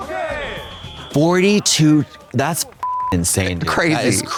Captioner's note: beep